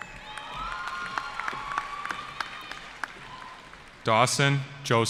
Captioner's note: cheering